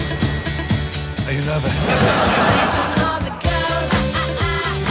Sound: audience laughter

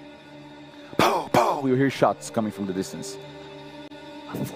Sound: pow pow

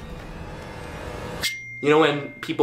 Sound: text tone

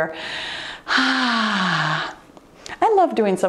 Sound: breathes heavily

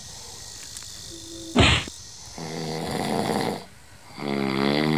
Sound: hits

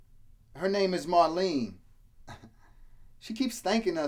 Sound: chuckles

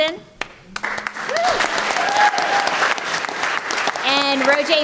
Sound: applause

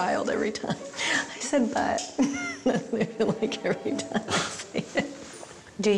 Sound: laughing

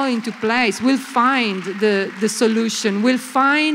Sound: applause

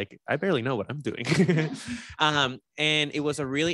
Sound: laughs

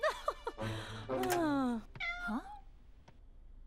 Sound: chuckling; meowing

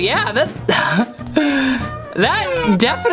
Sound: laughing

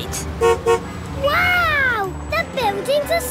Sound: honks

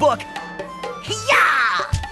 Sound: kung fu yell

